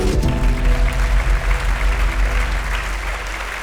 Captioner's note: applause